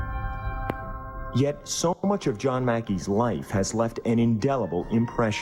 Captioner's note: voiceover